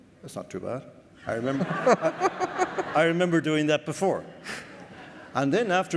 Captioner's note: more laughter